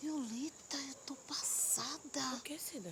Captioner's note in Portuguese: sussurro